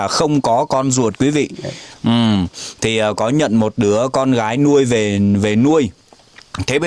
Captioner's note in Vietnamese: khịt mũi